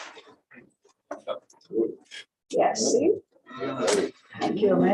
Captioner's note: chatter